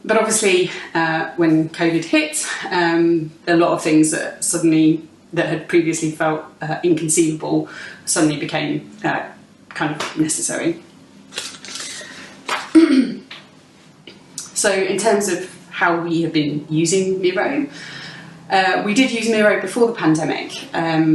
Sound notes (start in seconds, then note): 12.6 clears throat